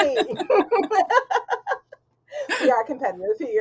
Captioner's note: laughing